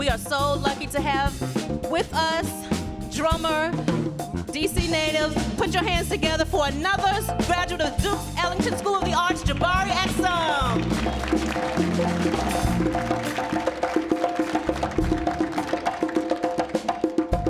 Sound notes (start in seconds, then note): 11.6 audience applauds; 14.5 rapid drum music